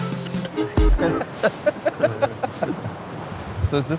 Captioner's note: laughs